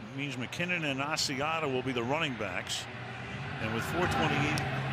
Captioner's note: pa announcement